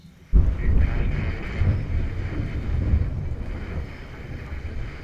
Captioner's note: warbled radio dialogue amidst a thunderstorm